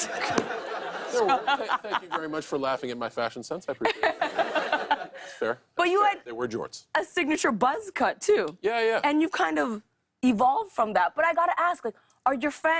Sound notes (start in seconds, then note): 3.7 laughter